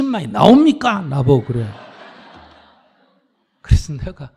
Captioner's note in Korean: 청중 / 스님 웃음